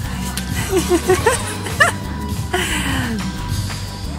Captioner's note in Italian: risata